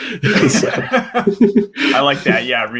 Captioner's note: laughing